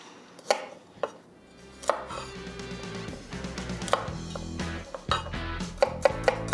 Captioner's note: upbeat music; knife slices